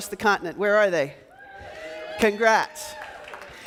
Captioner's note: yelling; clapping